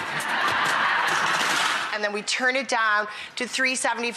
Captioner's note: audience laughs